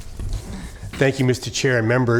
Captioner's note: laughs